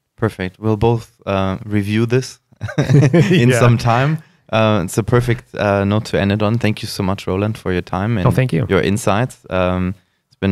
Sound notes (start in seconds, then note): 2.6 laughter